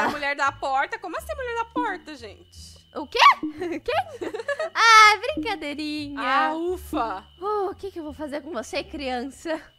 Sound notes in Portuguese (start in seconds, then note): 3.6 Risadas